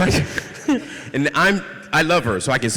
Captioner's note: laughter